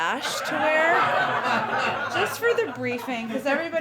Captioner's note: laughter